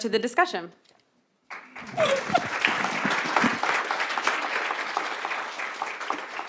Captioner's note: applause